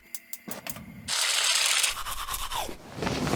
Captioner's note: teeth brushing